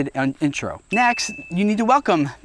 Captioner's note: dinging